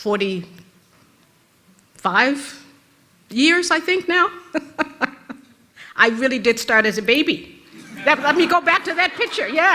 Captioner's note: rires de l'auditoire